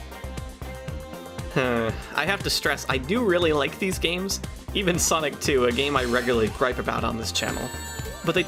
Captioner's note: sigh